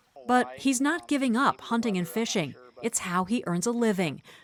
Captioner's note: voice-over